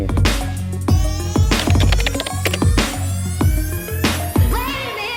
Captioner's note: keyboard clatter; upbeat music